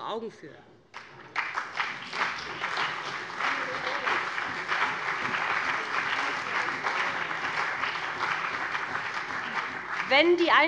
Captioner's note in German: Beifall BÜNDNIS 90/DIE GRÜNEN und CDU